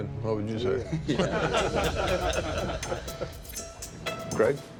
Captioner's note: laughter